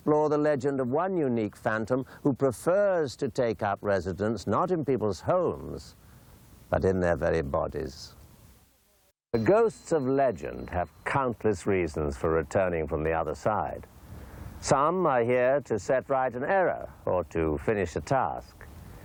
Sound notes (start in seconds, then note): none